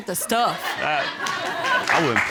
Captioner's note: audience laughing